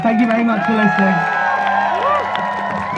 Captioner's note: crowd cheers